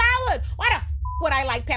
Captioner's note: beep